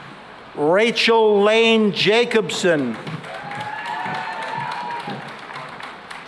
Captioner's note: cheering and applause